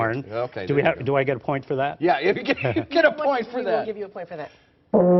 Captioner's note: laughter